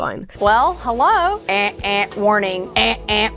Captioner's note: imitates alarm buzzing